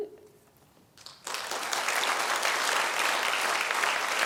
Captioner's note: applause